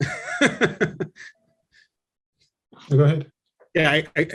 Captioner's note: laughs